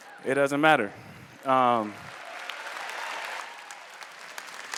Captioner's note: applause